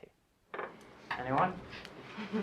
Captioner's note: laughing